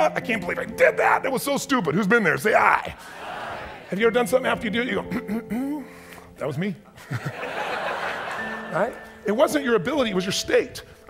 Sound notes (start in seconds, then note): 6.4 clears throat confidently; 7.0 audience laughs